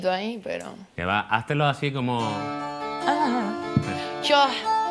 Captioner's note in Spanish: voz fina